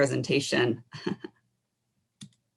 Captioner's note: laughs